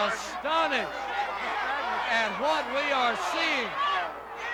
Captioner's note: crowd yelling